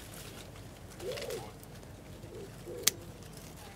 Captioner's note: bird calls, quiet conversation